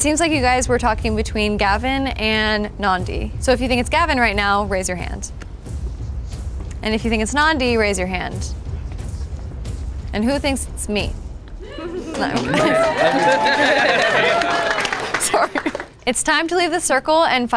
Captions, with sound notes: - It seems like you guys were talking between Gavin and Nandi. So if you think it's Gavin right now, raise your hand. (tense music) And if you think it's Nandi, raise your hand. (tense music) And who thinks it's me? (participants cheers and applauds) It's time to leave the circle